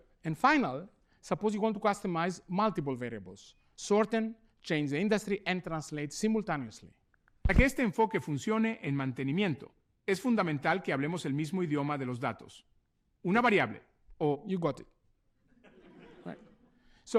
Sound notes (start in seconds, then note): 7.1 speaking spanish